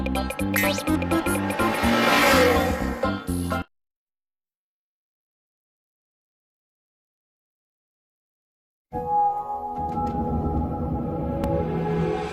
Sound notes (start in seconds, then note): 4.0 silence